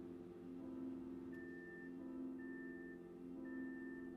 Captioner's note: microwave beeps